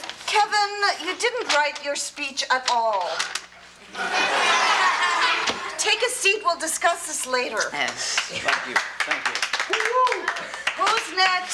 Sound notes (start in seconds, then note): 3.8 audience laughs; 8.1 class clapping